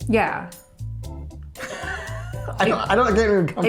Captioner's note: laughing